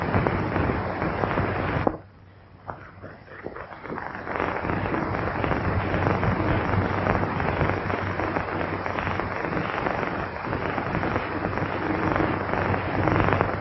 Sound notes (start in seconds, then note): 1.5 pounding